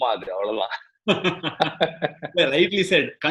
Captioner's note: laughs